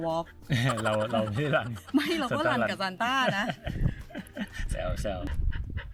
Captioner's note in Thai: เสียงหัวเราะ